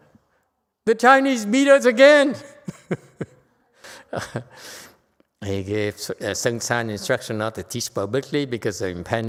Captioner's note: laughter